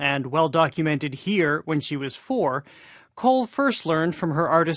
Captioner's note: none